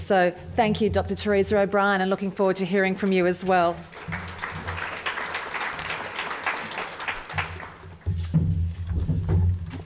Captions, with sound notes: So, thank you, Dr Teresa O'Brien and looking forward to hearing from you as well. [audience applause]